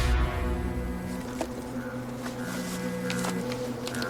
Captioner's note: phone vibrating